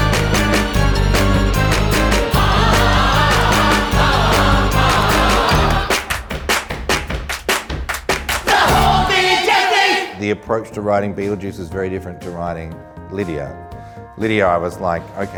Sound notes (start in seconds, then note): 5.8 claps